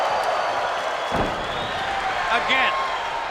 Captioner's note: body thudding